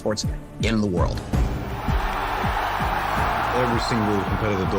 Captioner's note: all continue cheering